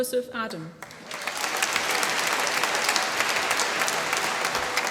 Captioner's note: applause